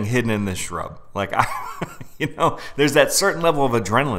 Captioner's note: laughing